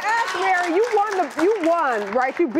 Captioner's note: cheering